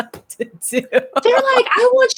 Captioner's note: continues laughing